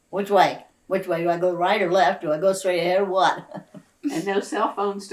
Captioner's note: laughs